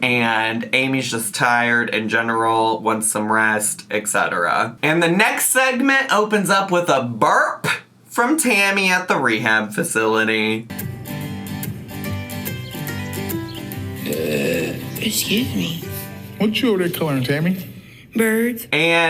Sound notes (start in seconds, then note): 10.6 pleasant music; 12.8 Tammy belching